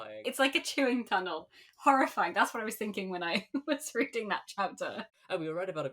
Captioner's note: laughing